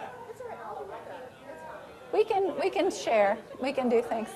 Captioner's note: general chatter